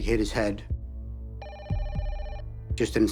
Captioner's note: phone rings